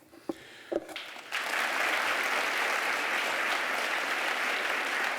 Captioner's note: applause